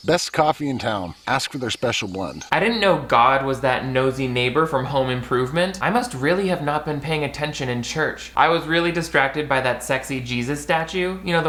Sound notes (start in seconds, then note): none